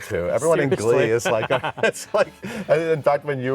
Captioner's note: laughs